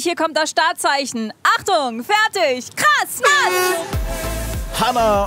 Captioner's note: Startsignal